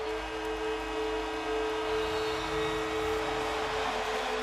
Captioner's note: buzzer, cheering